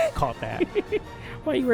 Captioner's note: laughs